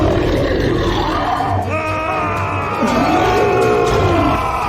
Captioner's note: shouting